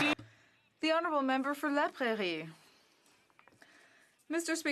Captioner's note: some Applause